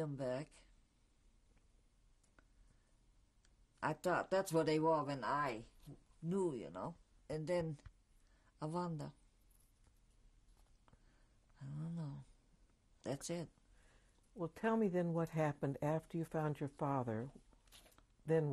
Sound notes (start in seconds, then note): 8.8 pauses for 3 seconds